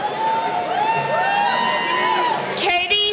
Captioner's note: cheering